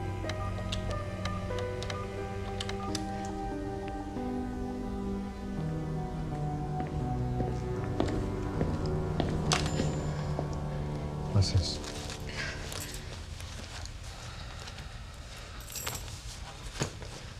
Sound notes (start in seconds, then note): 1.7 tense music continues; 7.8 footsteps thudding